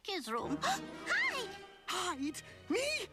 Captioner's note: gasps